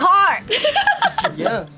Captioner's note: laughs